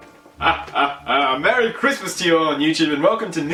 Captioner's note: laugh